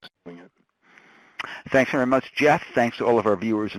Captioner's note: voiceover